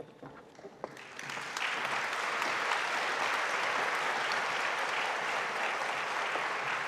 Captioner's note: audience applauding